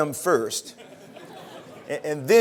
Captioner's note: laughter